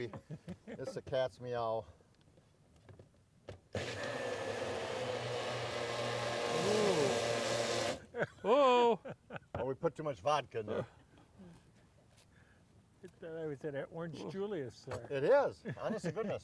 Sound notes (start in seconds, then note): 3.7 blender running; 8.0 laughing